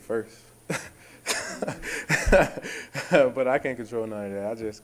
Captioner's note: laughing